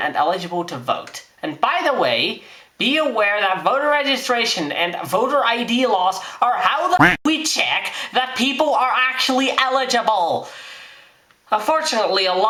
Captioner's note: quack